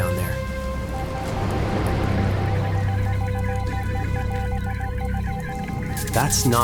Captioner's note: rapid ticking